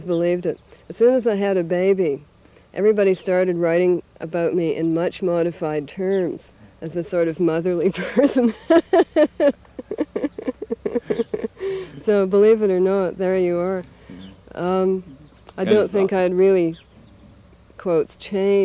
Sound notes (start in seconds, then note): 11.2 laughs